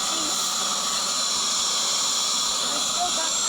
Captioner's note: air duster whirring